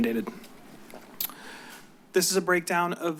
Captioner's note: clears throat